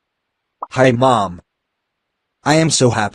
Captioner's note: voiceover